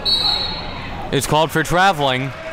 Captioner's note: whistle blows